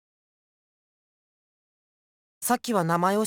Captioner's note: silence